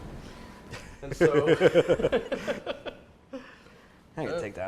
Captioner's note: laughter